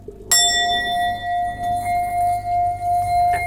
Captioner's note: bowl chiming